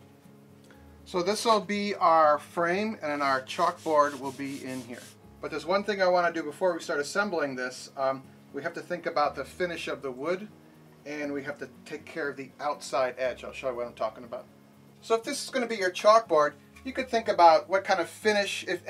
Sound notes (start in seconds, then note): none